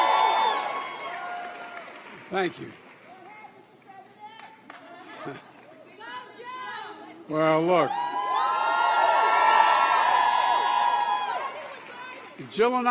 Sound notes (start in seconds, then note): 4.3 applause